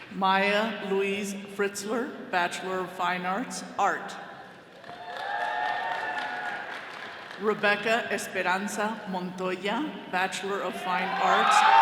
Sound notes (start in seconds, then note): 4.8 all cheering